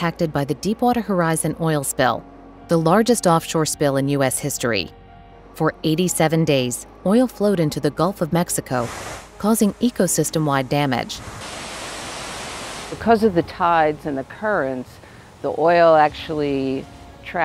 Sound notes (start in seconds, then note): 11.1 waves